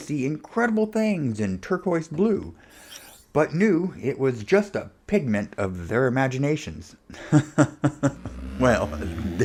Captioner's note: ha Ha Ha